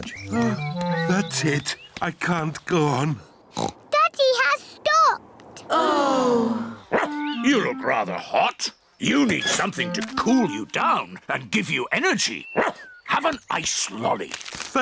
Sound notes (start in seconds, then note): 3.2 oinks; 5.6 all sigh; 6.9 barks; 12.6 barks